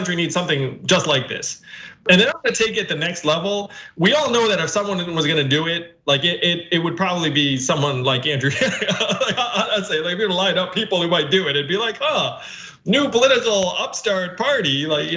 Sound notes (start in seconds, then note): 8.5 laugh